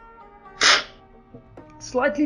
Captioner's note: slurping